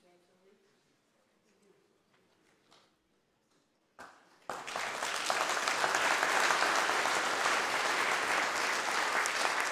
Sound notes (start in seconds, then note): 4.4 audience applause